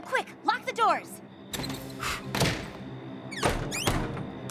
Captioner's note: blows